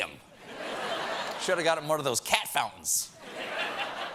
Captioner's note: laughter